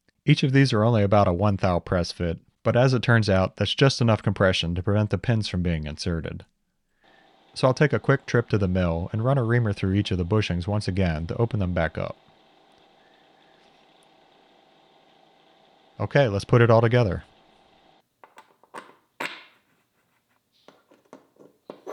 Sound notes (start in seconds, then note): 13.4 reamer whirring; 18.2 parts clacking